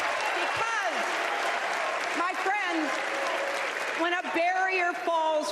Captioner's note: applause